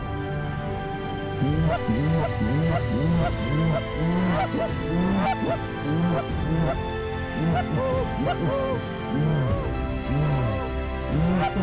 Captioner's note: goose calls